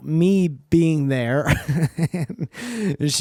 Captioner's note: laughter